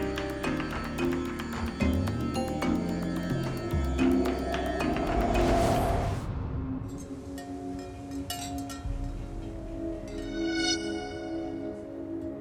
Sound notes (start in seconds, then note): 7.2 wind chimes jingling; 10.2 sharp string tone